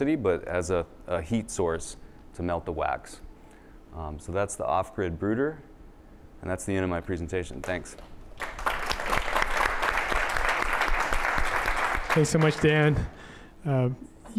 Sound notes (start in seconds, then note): 8.3 applause